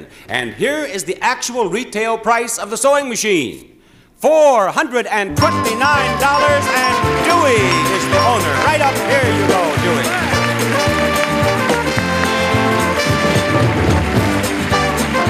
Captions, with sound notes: And here is the actual retail price of the sewing machine. $429. (bell chimes rapidly) And Douy is the owner. (cheerful music) Right up here you go, Douy. (cheerful music) (audience applauds)